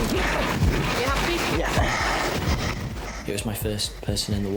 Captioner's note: panting; sighs